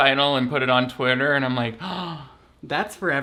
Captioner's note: gasps